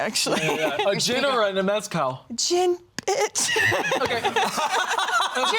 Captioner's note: laughs